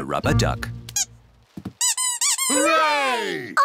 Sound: duck squeaks

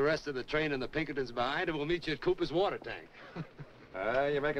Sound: chuckling

